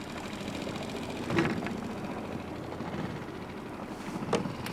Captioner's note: boat engine humming